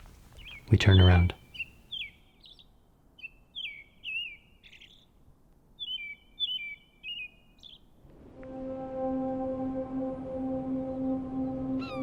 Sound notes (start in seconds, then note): 0.0 birds chirping; 8.1 light dramatic music